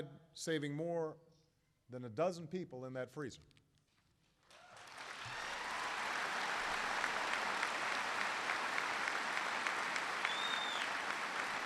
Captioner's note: applause